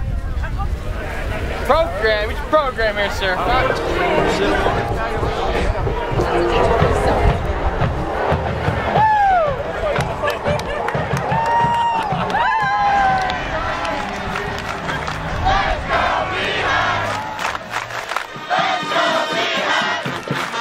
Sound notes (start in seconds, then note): 8.6 cheering; 17.0 clapping